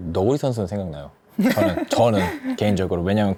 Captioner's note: laughs